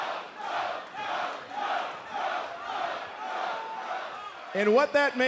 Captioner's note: fans chanting